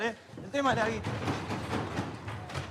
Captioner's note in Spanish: golpean a la puerta